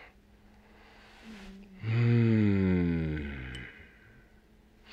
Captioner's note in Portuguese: suspiro pesado